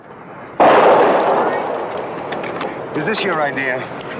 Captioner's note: gun firing